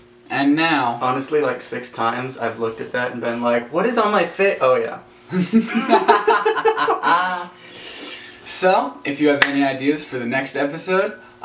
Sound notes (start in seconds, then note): 5.3 both laughing